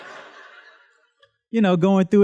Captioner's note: students laughs